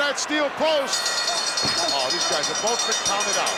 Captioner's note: bell rings